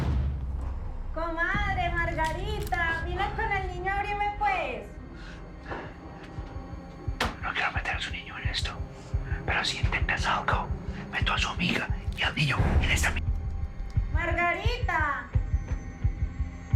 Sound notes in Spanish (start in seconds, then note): 6.6 Susurra